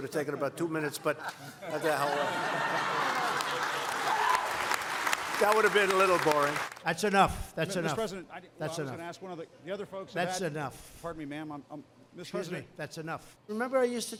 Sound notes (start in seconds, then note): 4.1 laughter; 4.4 applause